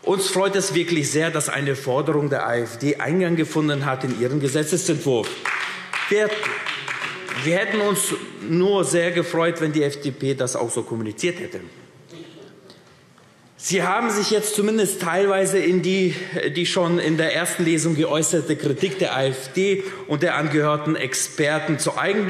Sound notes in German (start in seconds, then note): 5.2 Beifall AfD